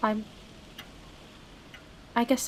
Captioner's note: wind rises, falls